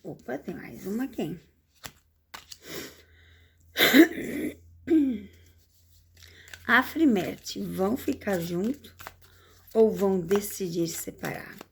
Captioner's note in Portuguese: limpando a garganta